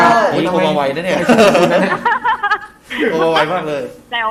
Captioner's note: laughing